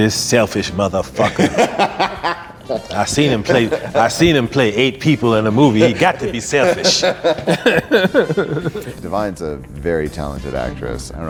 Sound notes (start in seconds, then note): 1.2 all laugh; 7.8 all laugh